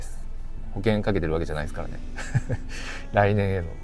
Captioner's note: laughs